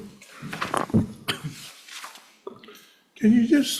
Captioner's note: microphone cracking